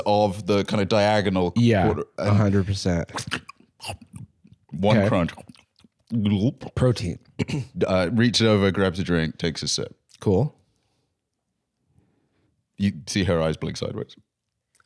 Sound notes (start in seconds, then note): 4.7 gulps; 4.9 slurps, chews